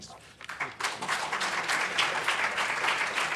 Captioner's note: applause